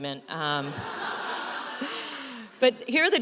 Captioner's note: audience laughs